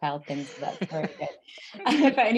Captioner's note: panelists laugh